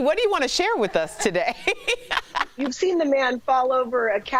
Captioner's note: laughter